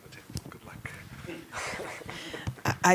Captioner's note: chuckles